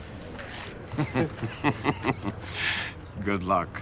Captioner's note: man chuckling